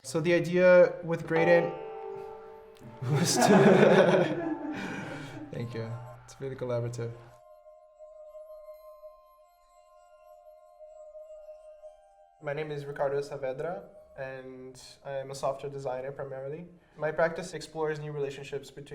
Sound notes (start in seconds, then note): 3.3 instrument sounds; 5.9 laughs